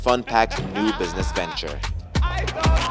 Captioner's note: laughs